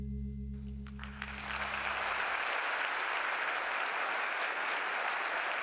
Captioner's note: applause